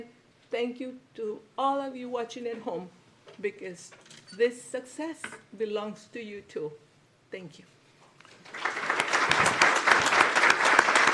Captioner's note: applause